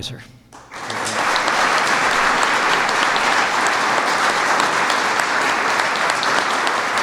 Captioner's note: applause